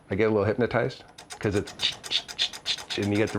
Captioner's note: makes clicking sound